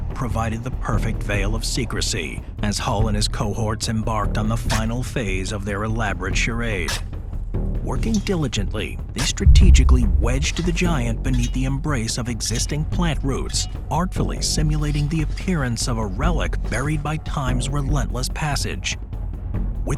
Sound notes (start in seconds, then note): 6.8 spade thunks